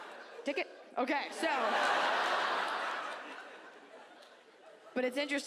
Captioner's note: audience laughs